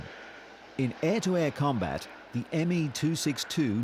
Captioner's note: engine roaring